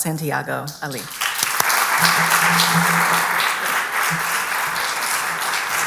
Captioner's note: applause